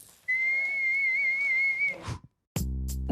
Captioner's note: whistles